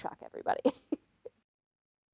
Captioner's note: laughs